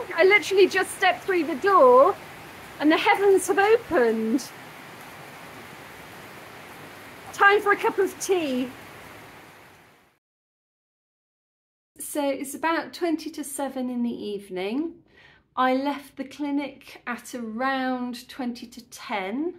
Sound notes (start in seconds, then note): 5.0 heavy rain